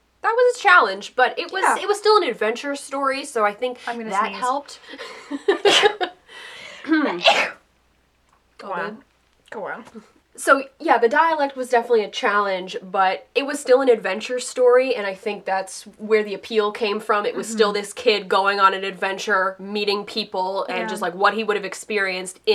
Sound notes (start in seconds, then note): 4.9 laughing and sneezing